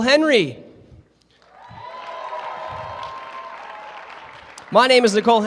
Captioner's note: cheering